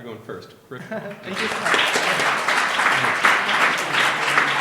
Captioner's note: applause